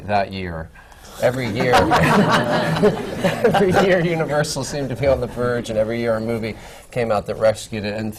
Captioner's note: laughter